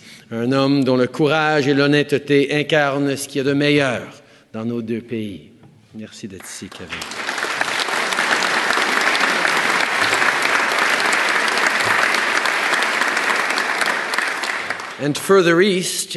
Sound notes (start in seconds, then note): 12.8 applause